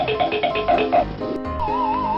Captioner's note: quick tapping; slide whistling